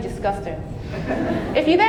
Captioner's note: audience laughing